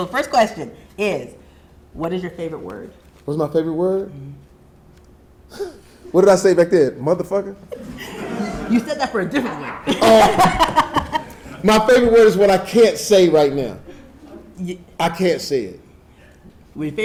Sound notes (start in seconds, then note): 7.7 audience chuckling; 10.3 laughing